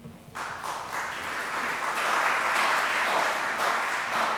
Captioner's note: crowd clapping